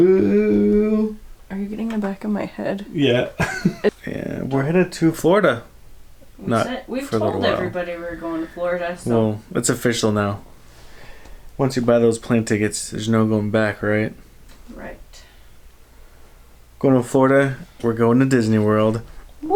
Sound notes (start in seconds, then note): 3.4 laughter